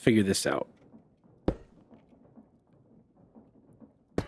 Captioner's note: banging